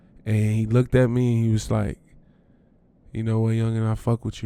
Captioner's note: none